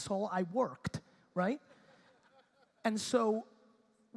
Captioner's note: audience laughter